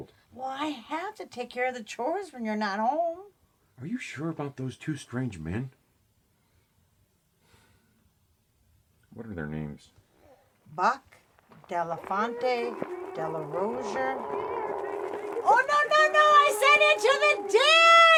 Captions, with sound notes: - Well I have to take care of the chores when you're not home. - Are you sure about those two strange men? (uneasily sighs) What're their names? - Buck, DeLafonte, DeLarosier. - Here piggy piggy! Here piggy piggy! (Otis growling) - Oh no no no no! I said into the dish!